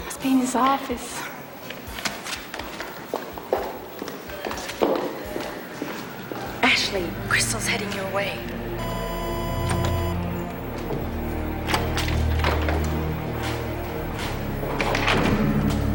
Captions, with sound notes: - He must be in his office. - Ashley, Crystal's heading your way. (beeping)